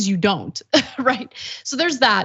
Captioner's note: laugh